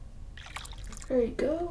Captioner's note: water dribbles